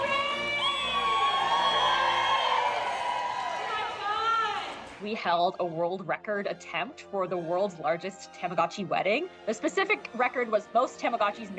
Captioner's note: cheers and Applause